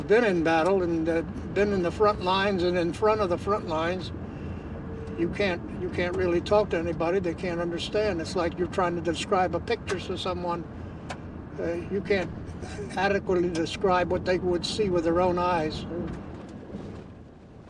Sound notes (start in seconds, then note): 12.4 sighs